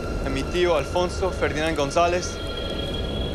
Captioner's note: speaking Spanish